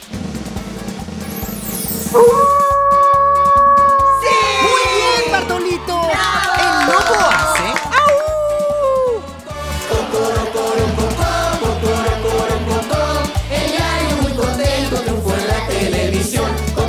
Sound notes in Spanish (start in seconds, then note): 0.1 Sonido de redoblante; 2.2 Sonido de lobo